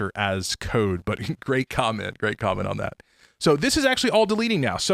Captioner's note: chuckling